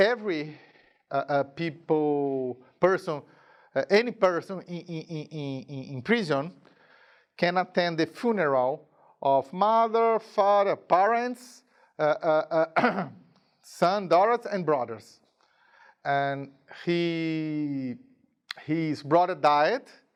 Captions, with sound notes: every person in prison can attend the funeral of mother, father, parents, (clearing throat) son, daughters, and brothers. And his brother died.